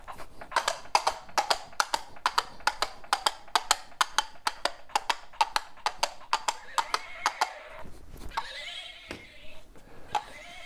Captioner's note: horse hooves